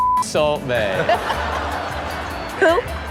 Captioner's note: beep; Karrueche laughing